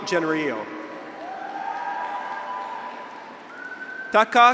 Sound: graduates cheer; audience applauds

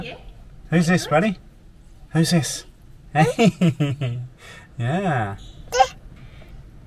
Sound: laughing

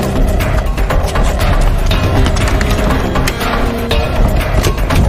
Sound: fast ominous music; running footsteps; door clanging as it is opened

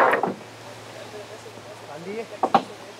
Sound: quiet conversation in the background

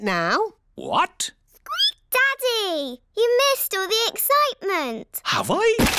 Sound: squeaks

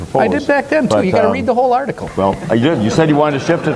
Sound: audience laughs

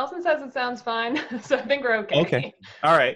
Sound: laughing

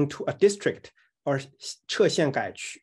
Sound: speaking in Chinese

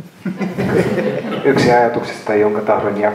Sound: laughter

